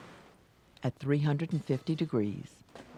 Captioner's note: voiceover